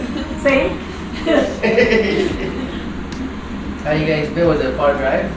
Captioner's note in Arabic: يضحك